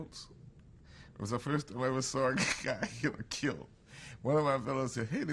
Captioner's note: laughs